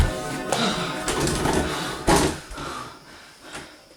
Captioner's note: struggling to breathe